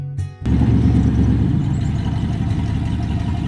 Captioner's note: sound of motor running